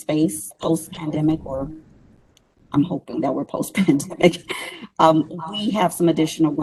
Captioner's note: laughs